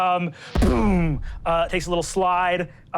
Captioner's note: whooshing